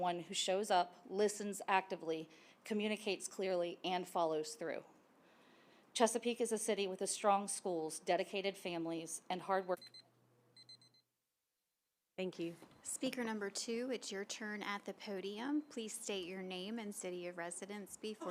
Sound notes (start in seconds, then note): 10.5 timer beeping